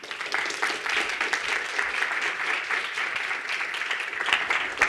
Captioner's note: audience applauds